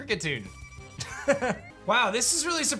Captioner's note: chuckles